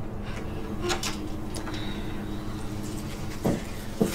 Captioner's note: moaning